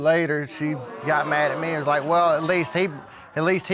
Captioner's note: audience gasps